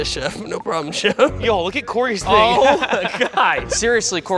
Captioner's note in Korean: 웃음